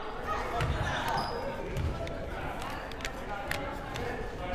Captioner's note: crowd murmuring